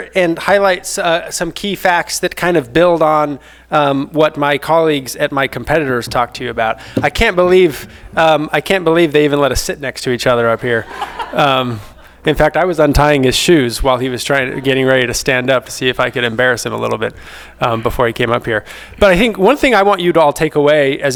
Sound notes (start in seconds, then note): 10.8 all laughing